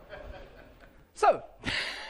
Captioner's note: laughter